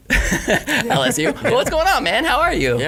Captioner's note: laughing